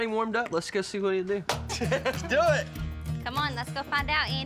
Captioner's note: laughter